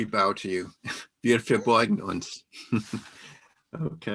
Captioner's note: non-english speech